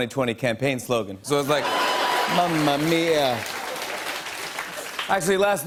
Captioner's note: laughter and applause